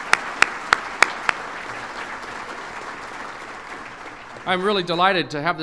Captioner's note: applause